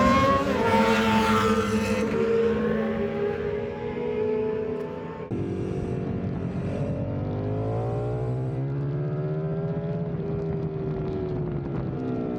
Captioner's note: engine roaring